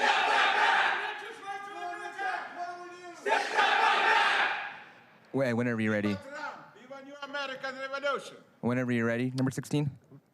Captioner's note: crowd chanting